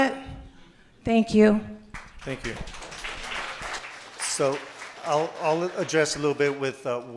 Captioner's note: applause